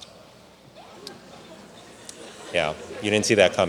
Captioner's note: audience laughs